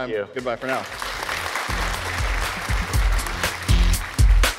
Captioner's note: audience applause; upbeat music